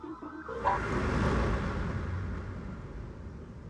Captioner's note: car Drives